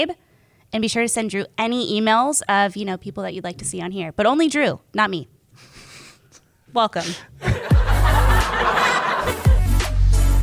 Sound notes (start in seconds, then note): 7.4 laughter